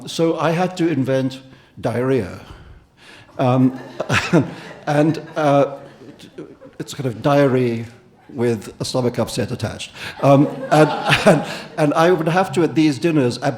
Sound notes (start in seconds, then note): 3.2 audience laughing; 3.4 Salman laughing; 9.9 audience and Salman laughing